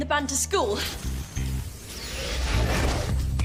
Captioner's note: magical buzzing sound